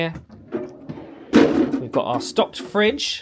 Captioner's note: fridge contents clank